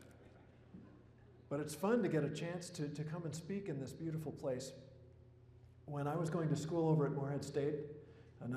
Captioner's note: laughter